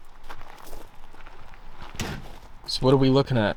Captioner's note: truck door clunking